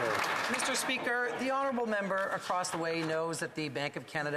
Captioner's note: applause